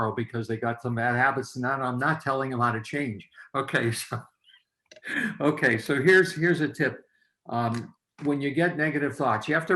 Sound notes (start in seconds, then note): 5.0 laughs